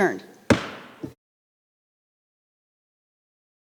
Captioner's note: gavel pounding